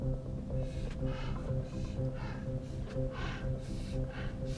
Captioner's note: Jim panting